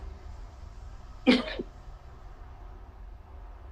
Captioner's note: laughs